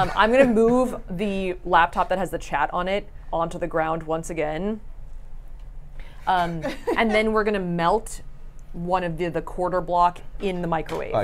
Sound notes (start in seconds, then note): 6.3 laughs; 6.4 chuckles